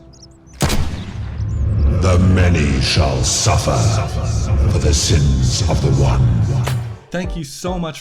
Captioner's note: gunshot; rumbling